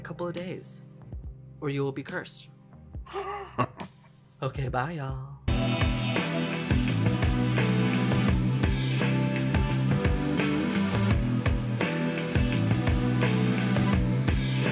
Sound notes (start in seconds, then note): 3.1 laughs